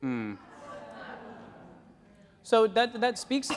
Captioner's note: audience laughing and groaning